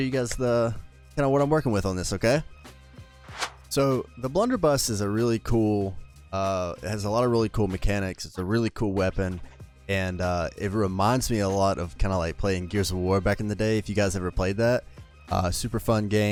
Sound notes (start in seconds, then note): 3.2 swoosh Noise